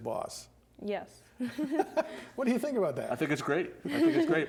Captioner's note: laughs